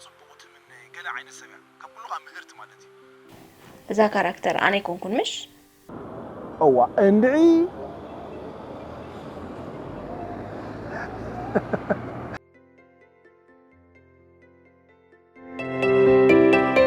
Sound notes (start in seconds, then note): 7.1 laughs